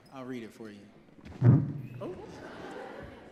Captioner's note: audience laughs